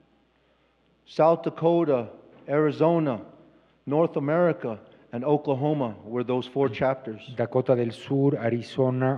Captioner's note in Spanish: Expositor habla en inglés